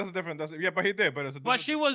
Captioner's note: speaking In Spanish